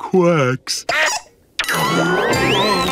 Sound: quacking

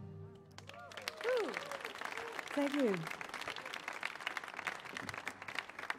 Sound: applause

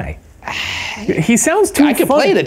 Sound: scoffs

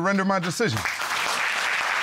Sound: audience applauding

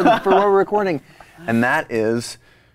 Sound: laughs

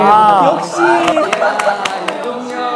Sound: laughing

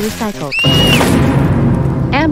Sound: scream

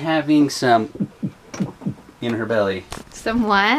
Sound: mimics heartbeat

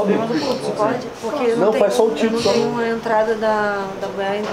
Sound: indistinct chatter; indistinct chatter

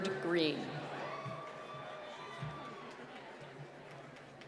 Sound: applause

